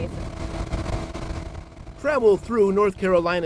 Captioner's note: engine revving